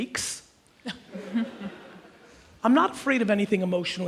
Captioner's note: audience chuckles